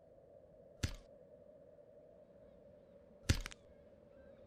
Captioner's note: skateboard whacking